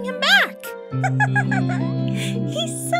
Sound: giggles

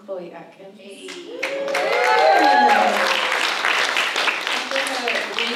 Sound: audience cheers

